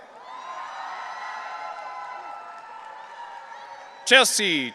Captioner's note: audience cheering